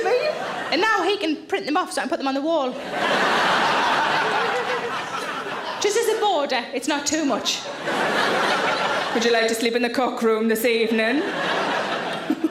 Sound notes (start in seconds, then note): 0.0 audience laugh; 2.7 audience laughs